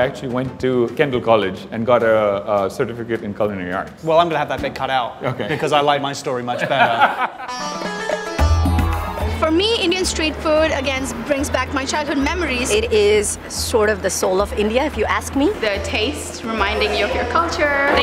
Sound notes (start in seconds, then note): 6.5 laughs